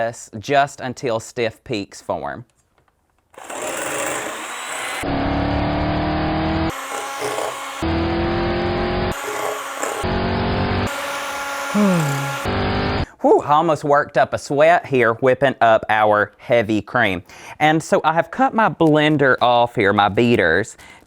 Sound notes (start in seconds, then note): 5.0 engine accelerating; 11.7 yawn; 11.8 engine accelerating